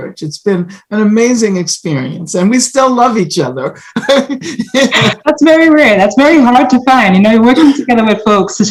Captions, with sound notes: It's been an amazing experience, and we still love each other. (both laugh) - That's very rare. That's very hard to find, you know, working together with folks,